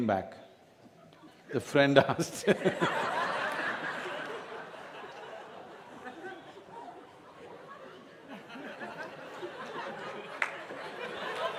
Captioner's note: laughter